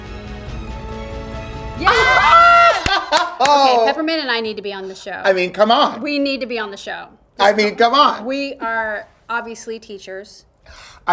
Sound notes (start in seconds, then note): 0.1 dramatic music; 1.9 Peppermint claps and laughs